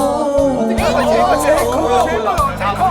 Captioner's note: laughs